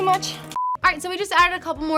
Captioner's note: beep